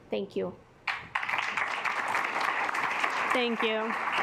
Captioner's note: assembly clapping